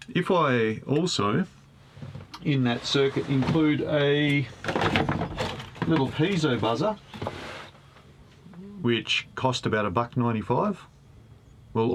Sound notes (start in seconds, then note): none